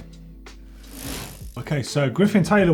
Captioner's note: bicycle gear whirs